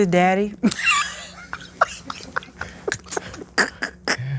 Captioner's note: snickering